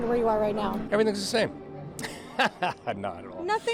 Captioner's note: chuckles